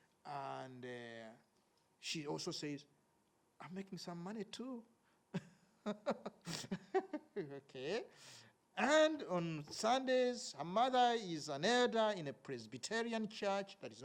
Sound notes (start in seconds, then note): 5.7 laughs